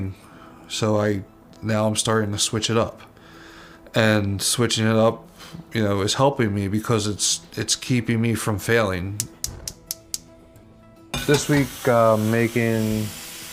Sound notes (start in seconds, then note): 9.2 gas burner clicking and igniting